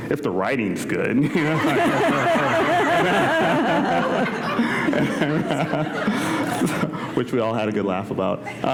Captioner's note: laughter